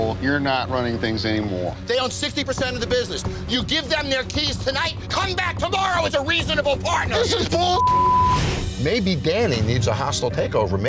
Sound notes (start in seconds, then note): 7.7 beep